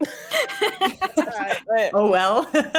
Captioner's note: both laughing